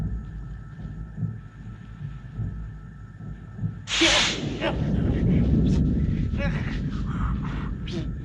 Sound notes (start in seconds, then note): 3.6 sizzles